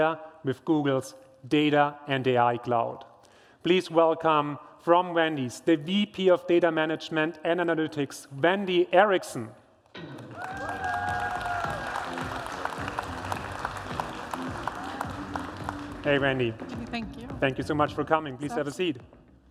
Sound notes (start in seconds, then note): 10.1 applause